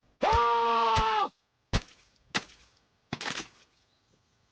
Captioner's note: wet stomping; bone crack